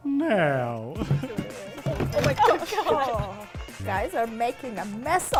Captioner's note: eager noises